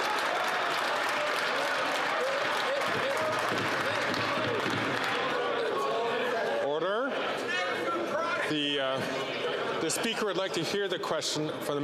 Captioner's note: some Applause